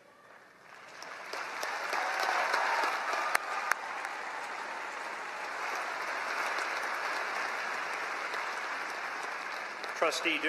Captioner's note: applause